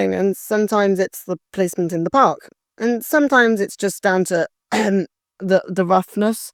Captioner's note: cough